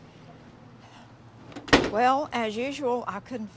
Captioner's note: door slams